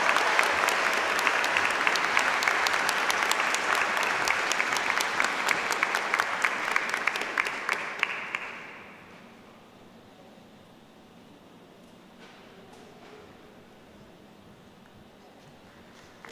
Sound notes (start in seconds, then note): 0.0 applause